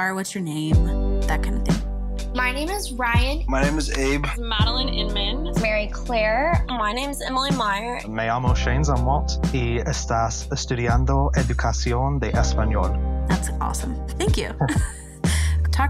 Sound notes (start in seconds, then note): 8.2 speaking Spanish